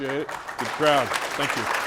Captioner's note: audience applauding